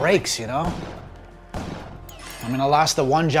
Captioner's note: sound of game in background